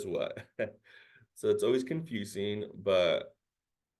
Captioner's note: chuckles